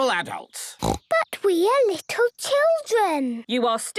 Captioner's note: snorting